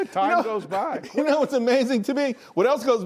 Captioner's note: laughter